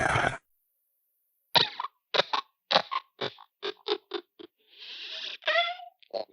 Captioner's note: coughs